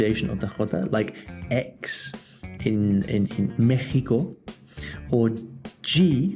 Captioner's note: pronounced in Spanish